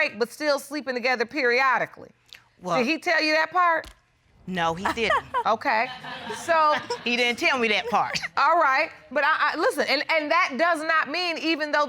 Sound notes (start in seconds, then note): 4.8 laughs